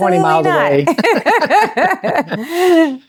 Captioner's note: both laughing